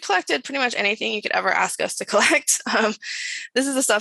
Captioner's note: chuckles